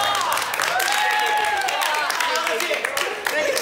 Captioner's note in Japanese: 拍手喝采大盛り上がり